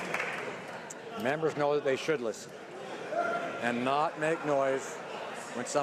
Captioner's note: cheering/Applause